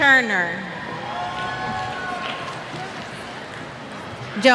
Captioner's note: cheers